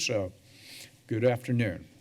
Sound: breaths deeply

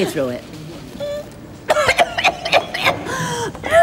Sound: coughs

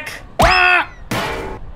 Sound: Wario screams

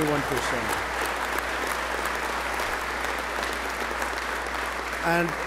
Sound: applause

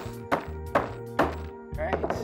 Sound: hammering sounds

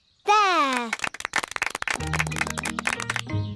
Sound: applause

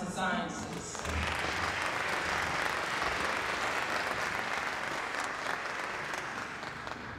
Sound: applause

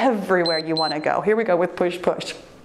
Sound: timer beeps

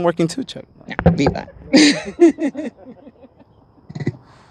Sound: laughs

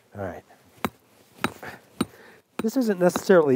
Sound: hammering sound

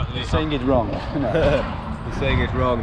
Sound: both laughing

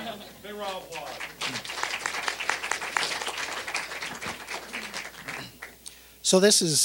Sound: all laughing; applause

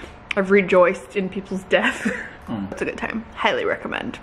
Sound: laughs

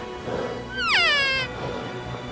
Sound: cow Call; heavy Breathing

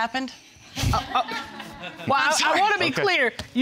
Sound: all laughing

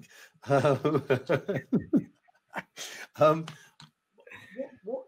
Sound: laughs

